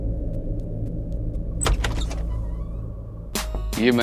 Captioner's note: Door opens